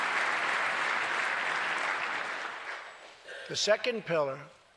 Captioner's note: applause